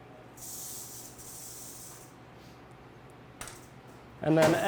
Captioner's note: snake rattles